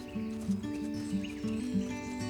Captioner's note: footsteps through grass; acoustic music plays